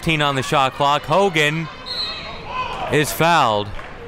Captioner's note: whistle blows